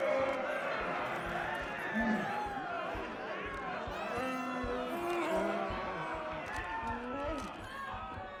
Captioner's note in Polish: Aplauz